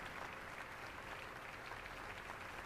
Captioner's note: applause